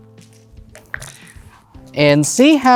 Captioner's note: dice clattering